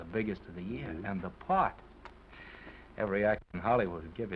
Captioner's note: kissing sound